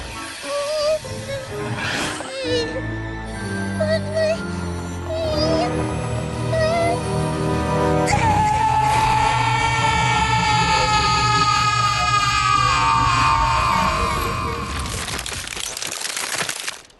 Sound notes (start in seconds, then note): 0.2 whimpering; 8.0 wail; 14.6 cracking